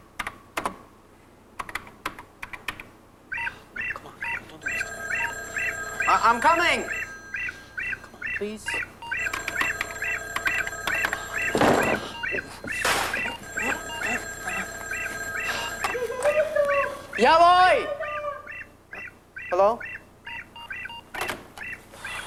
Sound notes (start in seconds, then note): 4.3 telephone rings; 9.1 ring